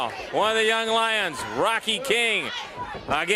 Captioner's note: crowd cheering